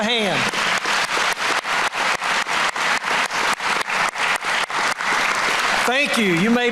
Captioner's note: applause